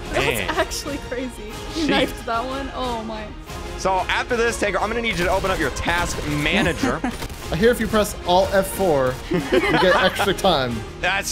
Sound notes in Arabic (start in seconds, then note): 6.5 تضحك